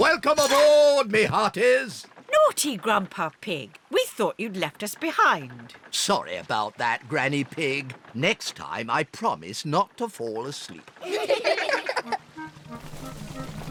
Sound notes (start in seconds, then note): 11.0 all giggle